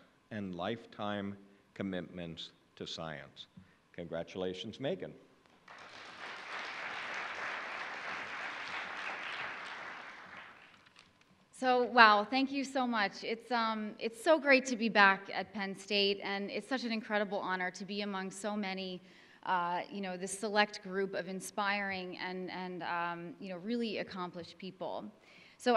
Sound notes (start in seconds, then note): 5.6 audience applauding